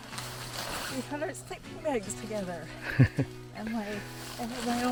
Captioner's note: chuckles